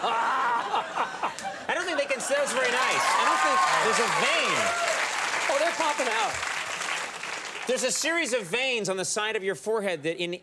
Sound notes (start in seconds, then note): 3.4 audience cheers